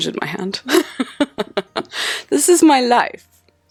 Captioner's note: laughing